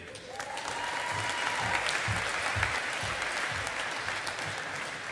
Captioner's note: audience applauding